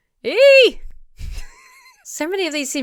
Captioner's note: wheezes